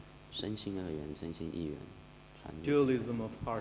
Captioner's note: speaking foreign language